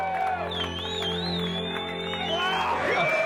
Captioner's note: all cheering